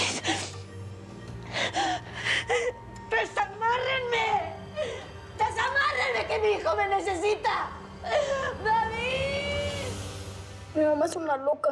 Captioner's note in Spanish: Sollozos